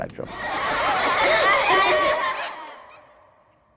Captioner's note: kids laughing